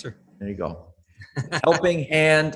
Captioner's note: laughs